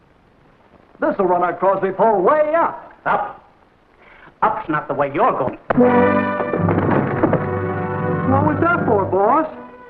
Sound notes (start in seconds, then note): 5.7 dramatic music; 6.5 assistant falls against door